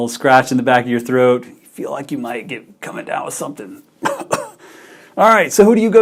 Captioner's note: cough